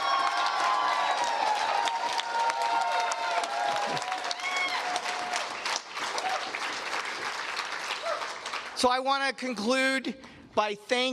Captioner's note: cheers and Applause